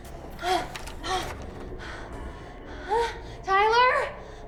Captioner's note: doorknob rattling